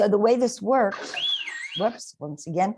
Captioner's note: whistle